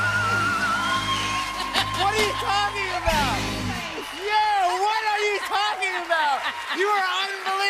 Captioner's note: laughs